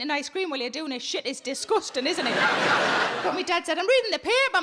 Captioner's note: audience laughing